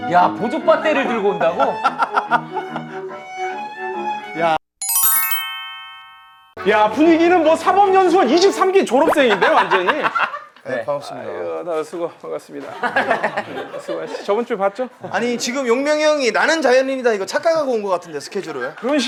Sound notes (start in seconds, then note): 2.0 laughing